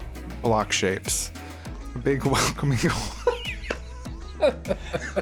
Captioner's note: both start laughing; starts laughing